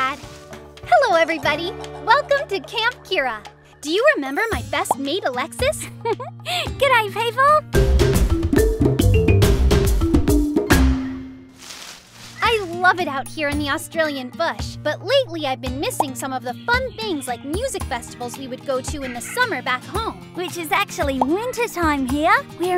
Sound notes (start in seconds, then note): 5.8 giggles; 7.7 upbeat music